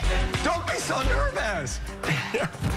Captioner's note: laughs